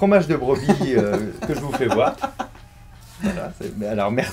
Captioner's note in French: rires